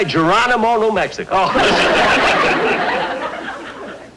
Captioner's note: audience Laughing